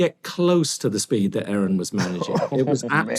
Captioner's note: chuckles